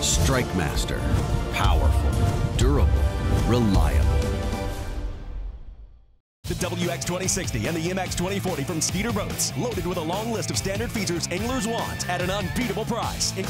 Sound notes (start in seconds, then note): 6.6 voiceover